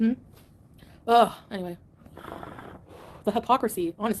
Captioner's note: smoke puffing